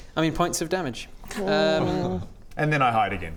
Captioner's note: unimpressed noises